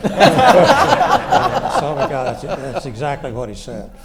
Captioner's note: audience laughs